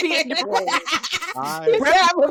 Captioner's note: laughter